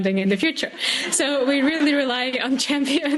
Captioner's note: audience laughing